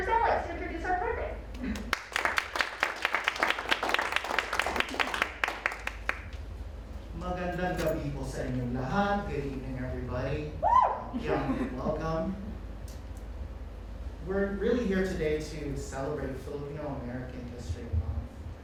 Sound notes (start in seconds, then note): 7.6 speaks in foreign language; 10.6 audience member cheers